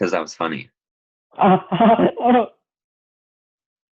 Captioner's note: laughs